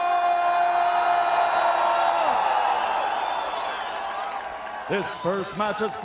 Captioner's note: crowd cheering